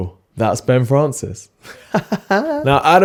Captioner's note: laughing